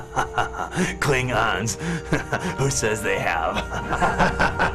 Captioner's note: laughing; laughing